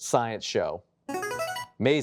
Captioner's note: buzzer chimes